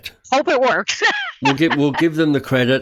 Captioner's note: laughs